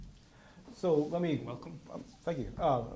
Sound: voiceover

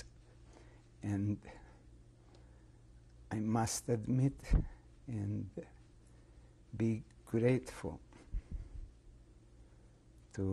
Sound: pauses for 3 seconds

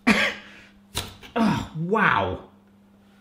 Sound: laughs; grunts

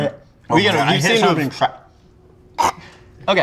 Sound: gagging

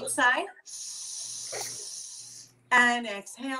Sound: sniffing sound

